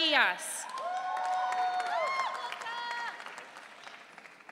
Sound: audience cheering

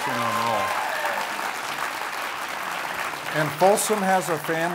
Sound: applause

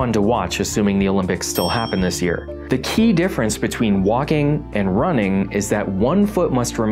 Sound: ding

